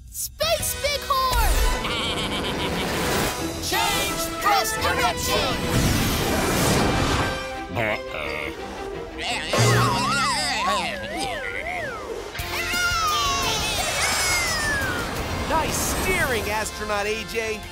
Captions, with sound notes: Space bighorn! [bleating] Change thrust direction! [bumping] [cheering] Nice steering, Astronaut AJ.